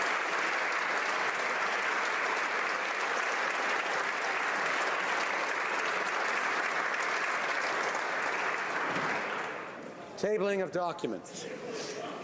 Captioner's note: applause